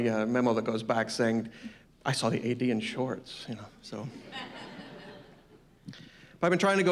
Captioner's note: laughter